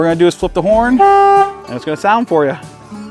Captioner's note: horn honking